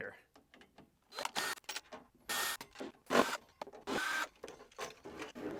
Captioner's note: power drill whirring